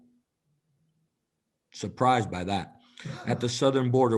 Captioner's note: laughter